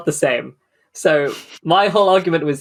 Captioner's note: laughs